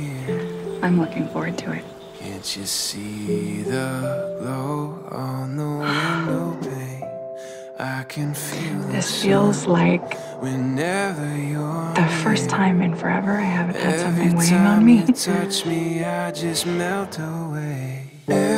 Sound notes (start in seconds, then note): 5.8 sigh